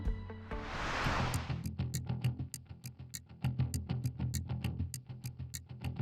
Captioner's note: dramatic music; timer ticking